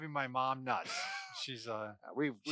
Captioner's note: laughs